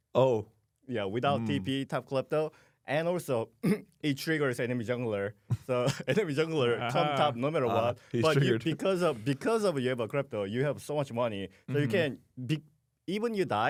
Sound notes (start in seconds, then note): 3.6 clears throat; 6.6 laughs